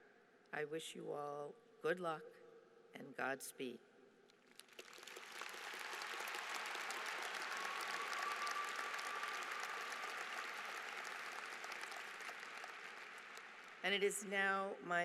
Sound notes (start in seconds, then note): 4.4 applause